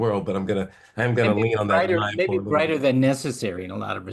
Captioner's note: laugh